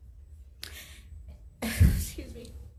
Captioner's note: inhales sharply